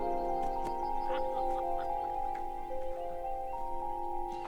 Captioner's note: laughter